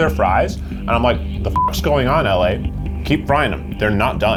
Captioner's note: beep